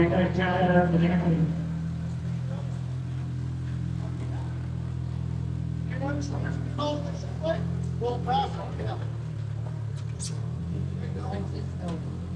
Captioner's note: crowd chattering